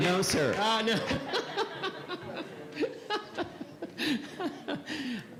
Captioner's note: audience and members laugh